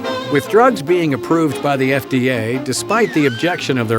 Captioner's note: voiceover